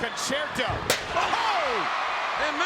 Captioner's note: audience cheering; chairs clanging